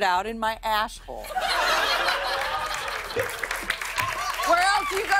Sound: laughter

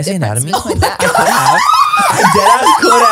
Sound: everyone laughs

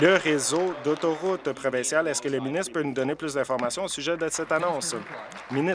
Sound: applause

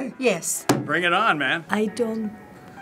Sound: banging table

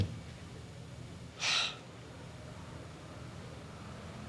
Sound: sighs

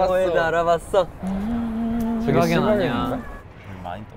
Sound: boo

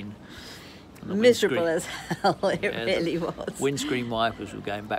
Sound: laughs

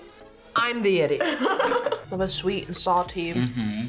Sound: laughs

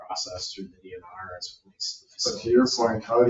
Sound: speaks distantly

